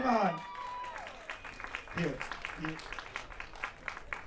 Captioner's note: applause